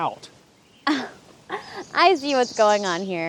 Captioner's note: Janet scoffs